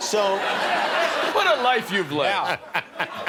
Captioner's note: laughter